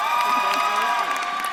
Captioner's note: audience claps and cheers